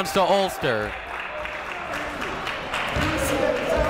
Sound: clapping

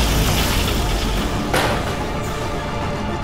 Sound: thud

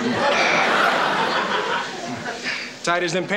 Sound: audience laughing

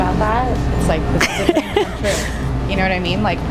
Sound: laughing

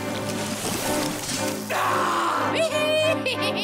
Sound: screaming; laughing

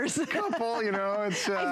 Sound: laughter

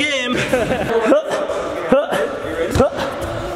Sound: laughs

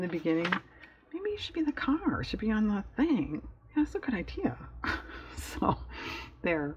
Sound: laughs

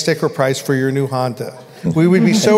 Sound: laughter

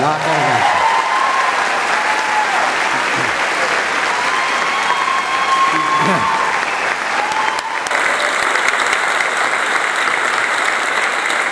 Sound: applause

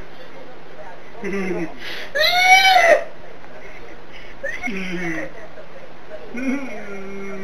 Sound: laughing and moaning

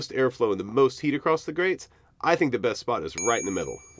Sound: chime

